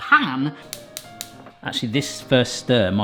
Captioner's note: hob igniter clicking